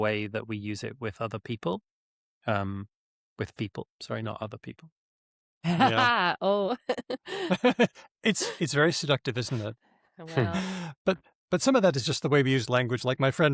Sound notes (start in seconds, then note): 5.6 laughs; 6.8 chuckles